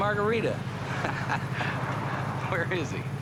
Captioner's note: both chuckle